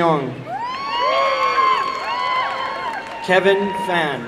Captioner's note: applause and cheering